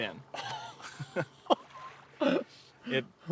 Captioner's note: laughing